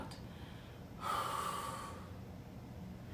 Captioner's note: deep breathe out